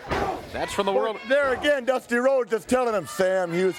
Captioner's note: crowd cheering